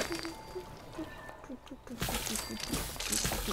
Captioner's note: lots of humming